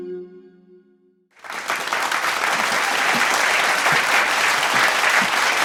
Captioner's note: audience applauds